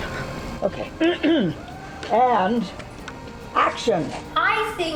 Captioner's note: clears throat